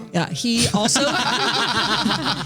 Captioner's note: laughing